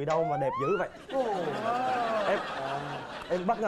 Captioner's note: laughing